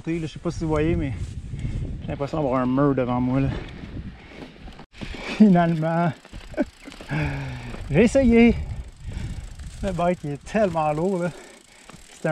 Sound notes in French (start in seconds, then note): 6.4 Rire